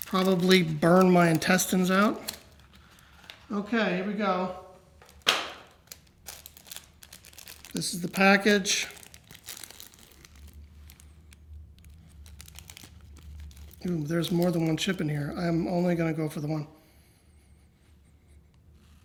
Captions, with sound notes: And probably burn my intestines out." Okay, here we go. (thuds) (wrapper rustles) This is the package. (wrapper rustles) Mm, there is more than one chip in here. I am only going to go for the one. (sniffs)